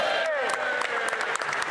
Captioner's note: applause